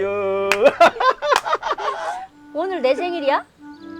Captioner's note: both laughing